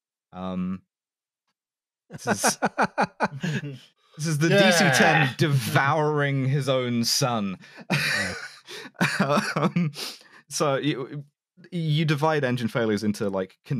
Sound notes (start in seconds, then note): 2.1 surprised laughter; 4.2 sound of surprised disgust; 7.8 laughing